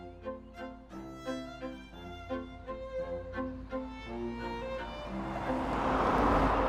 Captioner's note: gentle classical music; engine rumbling